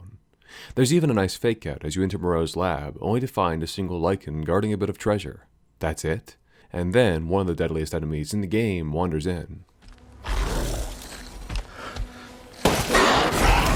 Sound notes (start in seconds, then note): 10.2 lycan snarls; 12.6 gunshots